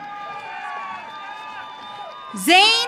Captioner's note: audience cheering